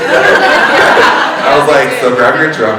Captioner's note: all laughing